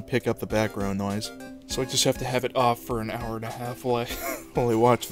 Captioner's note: wheeze